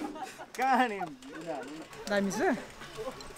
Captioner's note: indistinct chatter